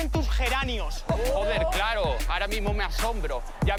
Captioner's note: shouts